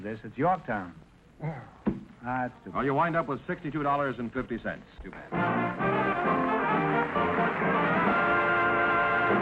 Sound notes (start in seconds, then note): 1.4 groaning; 6.4 applause